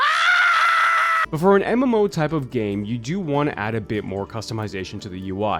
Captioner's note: w/ scream